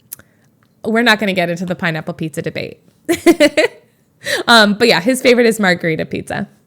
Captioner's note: Emma laughs